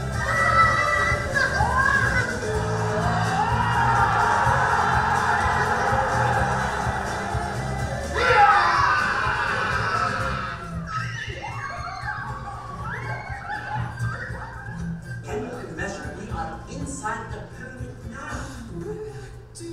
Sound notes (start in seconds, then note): 0.6 children yelling; 16.4 voiceover